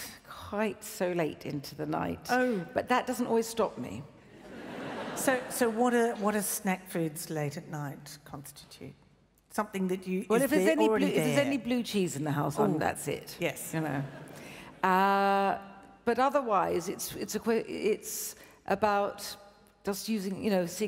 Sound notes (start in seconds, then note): 4.0 laughs; 13.5 laughs